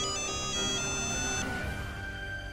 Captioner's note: phone ringing